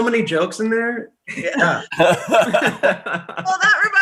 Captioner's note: laughing